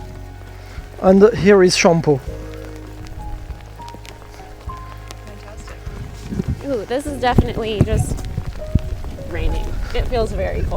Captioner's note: sounds of rain